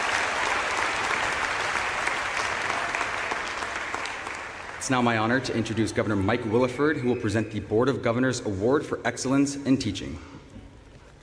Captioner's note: applause